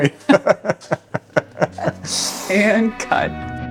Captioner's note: laughing